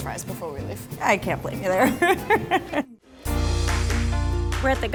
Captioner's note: laughs